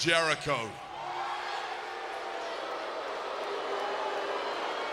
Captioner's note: audience cheering